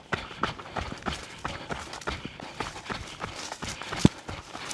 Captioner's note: footsteps crunching